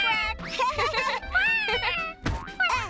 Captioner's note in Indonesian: tertawa dan kwek